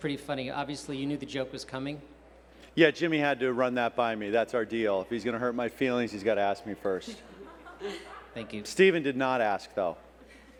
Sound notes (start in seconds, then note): 7.0 crowd laughs